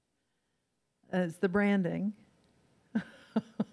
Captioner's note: laughs